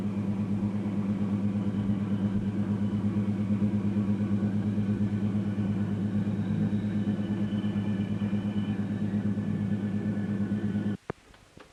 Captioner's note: sound of train moving